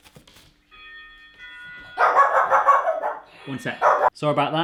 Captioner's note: doorbell rings; dogs bark